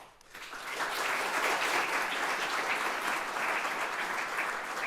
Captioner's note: audience applauding